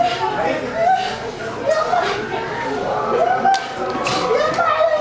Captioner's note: Arabic